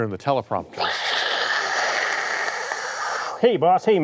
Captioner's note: El Sapo hissing